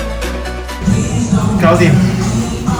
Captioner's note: Cantonese